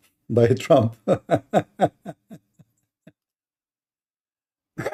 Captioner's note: Ketawa